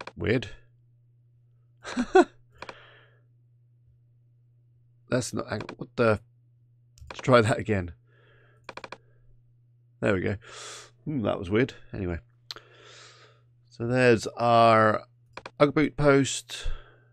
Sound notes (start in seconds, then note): 1.8 laughs